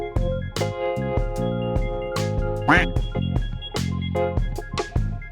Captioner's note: laugh